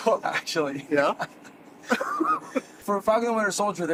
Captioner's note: laughing